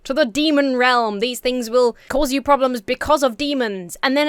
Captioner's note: none